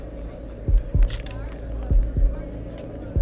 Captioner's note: Camera Click